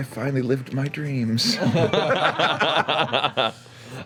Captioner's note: laughter